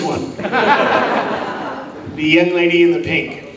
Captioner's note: audience laughs